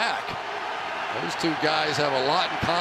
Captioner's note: booing